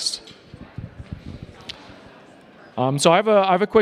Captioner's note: attendees chatting